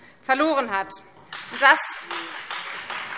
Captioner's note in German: Beifall Freie Demokraten